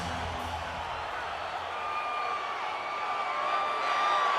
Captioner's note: audience cheering